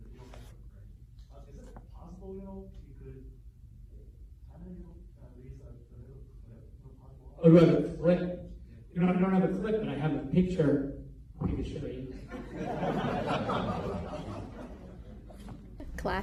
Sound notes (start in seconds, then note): 12.1 laughter